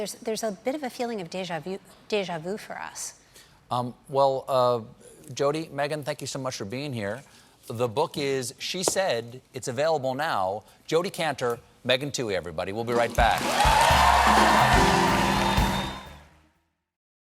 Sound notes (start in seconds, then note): 13.1 chrs and applause